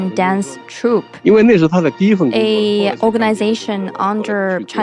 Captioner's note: speaking Mandarin Chinese